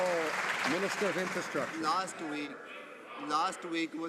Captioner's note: some Applause